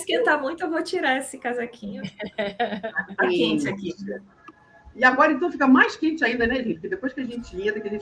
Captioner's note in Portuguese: risadas